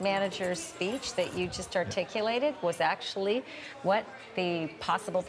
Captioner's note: laughter